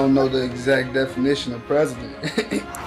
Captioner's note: laughs